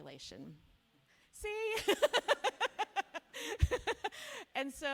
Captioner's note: laughs